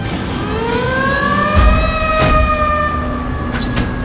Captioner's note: siren wailing